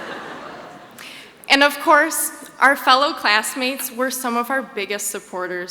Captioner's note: laughs